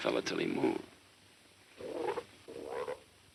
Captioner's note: frog croaks